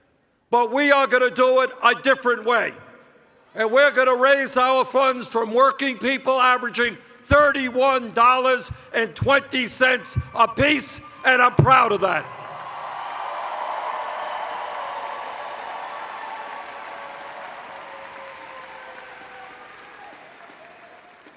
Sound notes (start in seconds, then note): 14.7 cheers